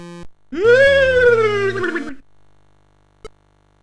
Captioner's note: goofy scary sounds